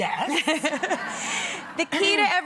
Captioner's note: laughing